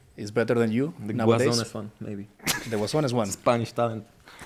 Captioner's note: laughs